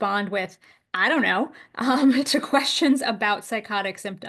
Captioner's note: laughs